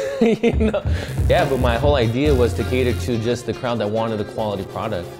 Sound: laughter

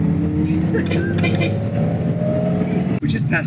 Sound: horn honking

